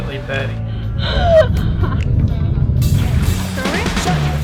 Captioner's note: gasping and laughing